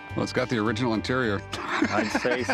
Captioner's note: laughter